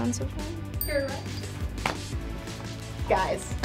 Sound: bell chimes

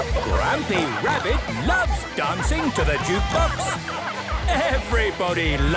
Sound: shouting

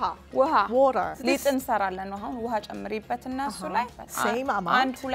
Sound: Amharic; speaking Amharic

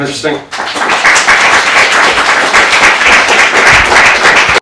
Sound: audience clapping

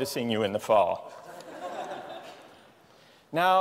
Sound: laughter

